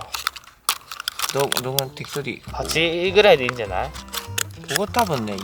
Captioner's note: laughs